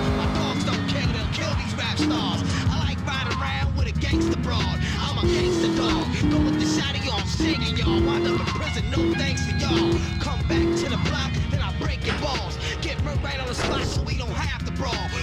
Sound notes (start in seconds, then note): 0.0 sirens wailing